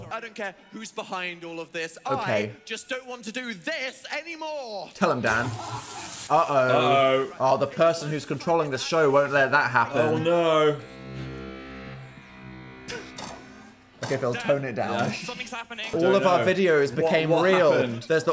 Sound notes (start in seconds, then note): 5.1 electricity crackling; 10.8 electronic music